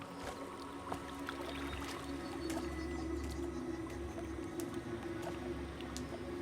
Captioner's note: gentle music; water lapping